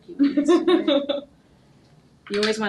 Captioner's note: laughing